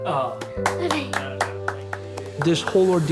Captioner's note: parents applauding